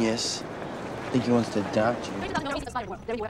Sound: sarcastically

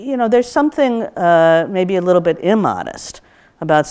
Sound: none

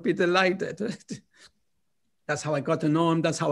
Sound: laughter

